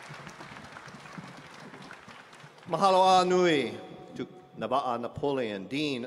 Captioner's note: applause; speaking hawaiian